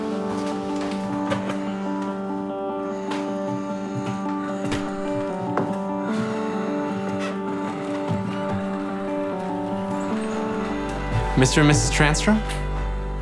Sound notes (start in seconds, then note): 0.3 door opens; 1.4 heavy breathing